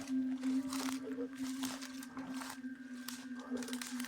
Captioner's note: rustles